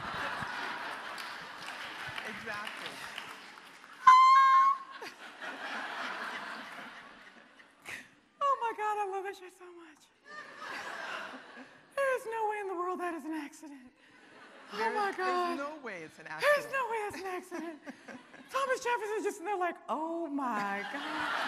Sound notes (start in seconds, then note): 0.0 audience applauding; 4.0 shrieks; 10.3 audience laughing